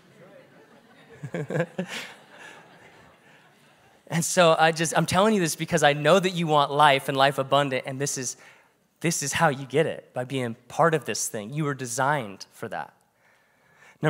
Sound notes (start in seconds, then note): 0.0 congregation laughs; 0.1 preacher laughs